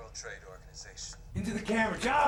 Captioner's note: voiceover